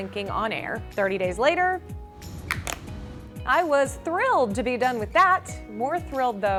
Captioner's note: snapping